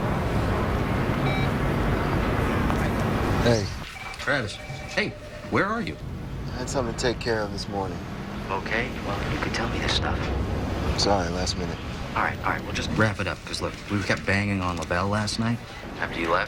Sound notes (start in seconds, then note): 3.8 phone beeps